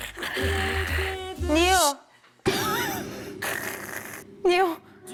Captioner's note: sleep talking